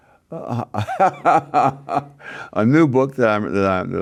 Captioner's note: laughs